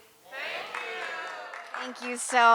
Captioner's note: audience applauding